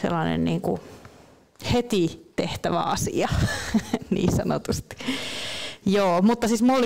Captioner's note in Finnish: Naurahtaa